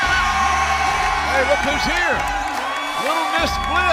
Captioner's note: cheers and applause